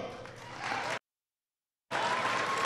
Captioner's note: applause